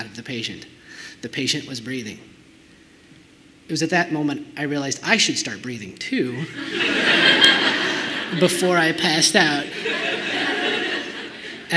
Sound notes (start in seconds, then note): 6.5 laughter